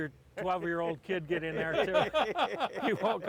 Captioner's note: laughing